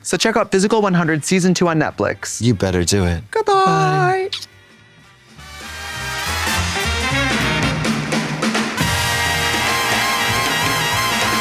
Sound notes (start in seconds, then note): 3.6 upbeat jazzy outro music; 4.3 kissy sound